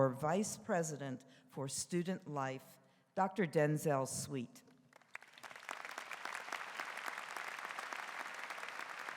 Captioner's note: applause